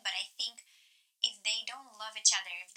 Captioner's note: none